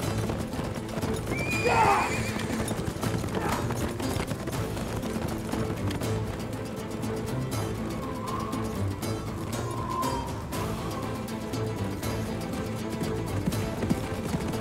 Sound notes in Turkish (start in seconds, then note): 1.3 At kişneme sesi; 3.2 Rüzgâr sesi; 12.9 At nalı sesleri